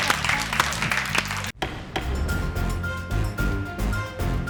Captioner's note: people clapping; dramatic music